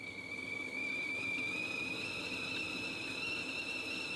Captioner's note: kettle whistles